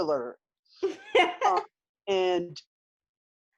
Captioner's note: chuckles loudly